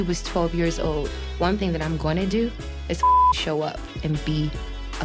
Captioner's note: beep